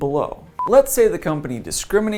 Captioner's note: beep